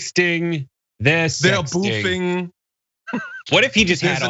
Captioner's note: laugh